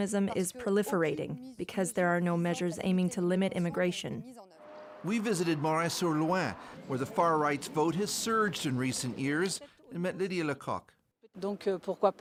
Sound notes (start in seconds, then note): 4.4 speaking French